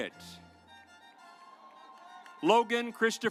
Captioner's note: audience applauds